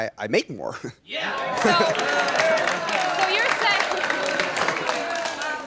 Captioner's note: audience cheers and claps